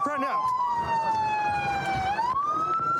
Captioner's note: sirens blaring